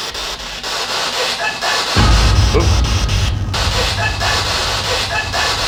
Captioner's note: muffled laughter